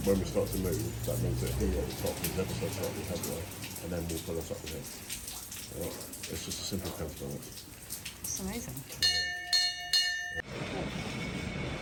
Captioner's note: bell rings